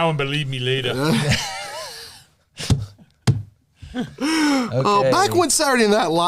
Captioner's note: laughter